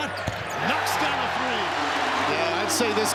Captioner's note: crowd cheering